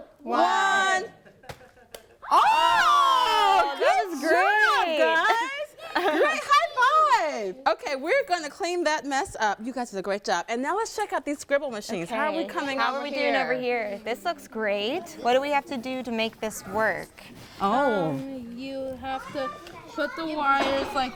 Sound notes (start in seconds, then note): 1.2 egg thumps; 2.3 everyone shrieks excitedly